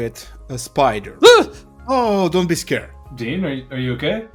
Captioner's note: gasps